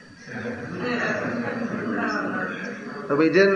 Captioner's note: laughter